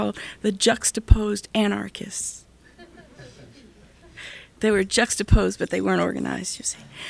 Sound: laughter

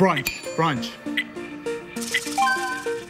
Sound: bell dings

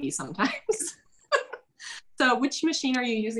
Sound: laughs

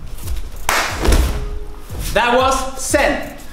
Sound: mom claps

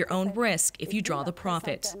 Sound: speaking French

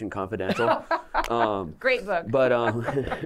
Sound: laughter

